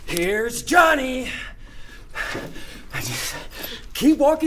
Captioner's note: panting